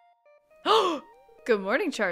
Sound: gasp

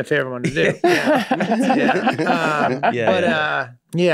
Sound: group laughs

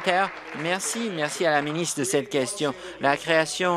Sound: applause

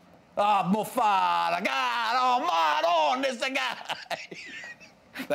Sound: speaks in Italian

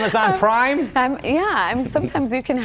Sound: laughter

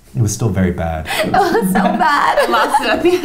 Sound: laughing

